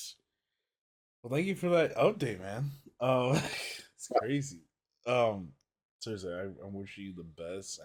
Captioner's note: laughs